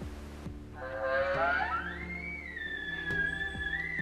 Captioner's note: elk bugling